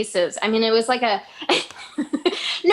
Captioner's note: laughs